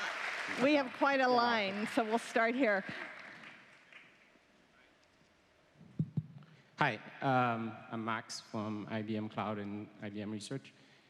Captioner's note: applause